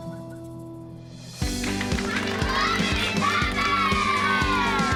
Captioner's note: cheering and applause